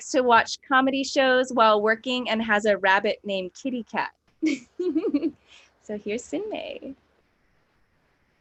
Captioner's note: laughs